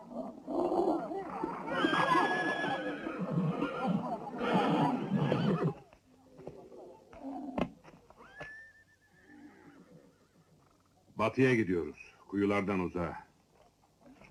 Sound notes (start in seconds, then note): 0.1 camels grunting; 1.3 horse whinnying